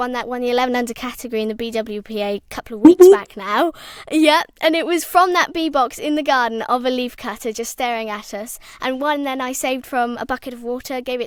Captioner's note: boop Boop